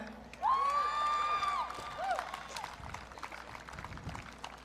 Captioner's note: audience cheering